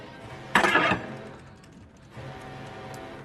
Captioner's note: swprd scrape